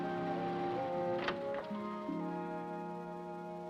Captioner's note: ominous music; sound of ocean; door opens